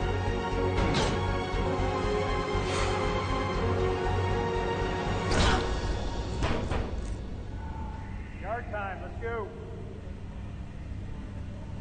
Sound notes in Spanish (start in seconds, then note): 6.5 Toques en la puerta